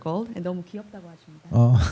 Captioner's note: speaking korean